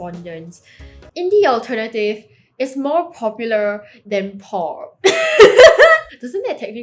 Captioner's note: laughs